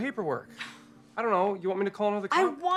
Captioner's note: Robin huffs